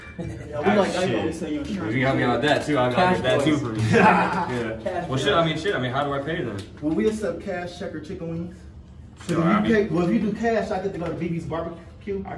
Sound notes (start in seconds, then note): 0.0 laughing; 3.7 laughing